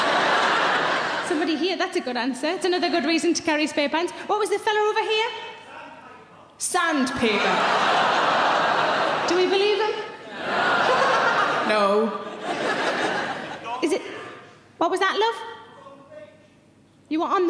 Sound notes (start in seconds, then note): 0.0 audience laughing; 7.2 audience laughing; 11.6 laughs